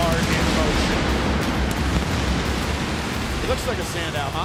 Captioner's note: fireworks explode